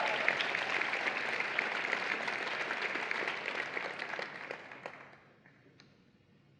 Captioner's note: applause and Cheering